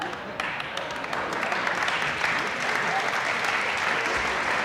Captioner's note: audience applauding